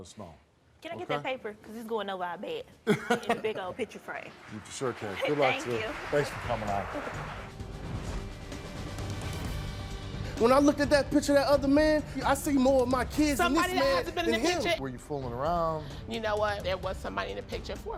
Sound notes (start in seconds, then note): 2.8 Steve laughs; 7.7 dramatic music